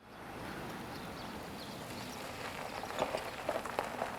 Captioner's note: gravel crunching; birds chirping